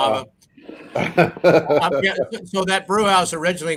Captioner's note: laughs